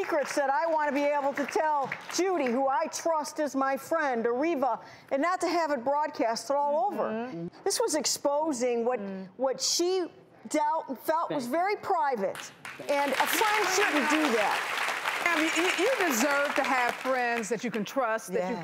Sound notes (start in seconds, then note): 12.4 audience clapping